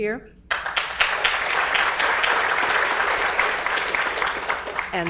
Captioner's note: audience applauds